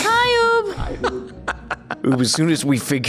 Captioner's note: chuckles